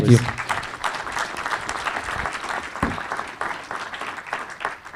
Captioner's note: audience applauding